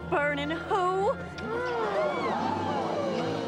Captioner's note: all gasping